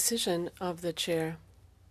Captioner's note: speaking French